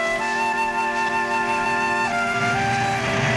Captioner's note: car receding